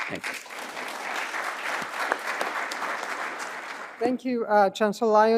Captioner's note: applause